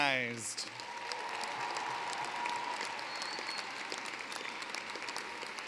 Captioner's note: cheering, applause